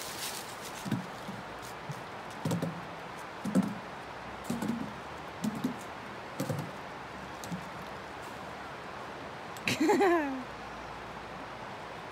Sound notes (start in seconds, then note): 2.6 rhythmic signature of Orion's trekking poles on a bridge; 9.6 chuckles at the stuck pole